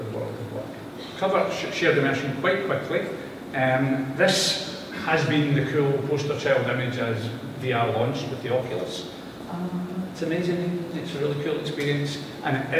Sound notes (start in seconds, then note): none